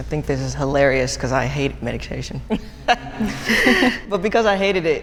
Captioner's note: laughs